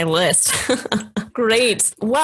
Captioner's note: laughs